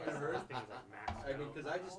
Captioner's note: laughing